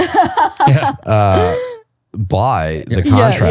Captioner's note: laughing